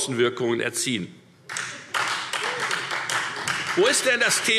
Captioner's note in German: Beifall Freie Demokraten